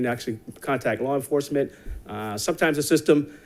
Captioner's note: none